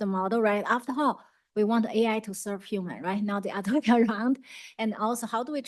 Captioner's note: laughs